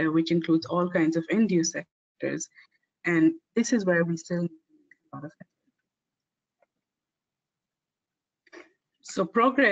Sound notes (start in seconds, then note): 6.6 audio static